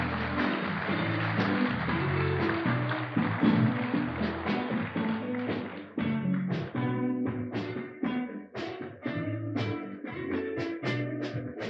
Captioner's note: applause